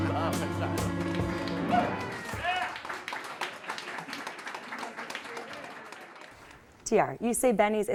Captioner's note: applause